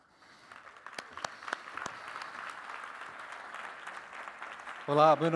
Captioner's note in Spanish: aplausos